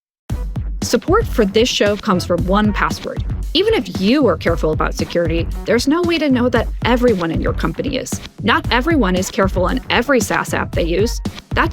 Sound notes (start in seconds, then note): 0.9 voiceover